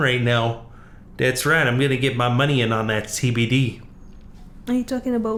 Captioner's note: southern accent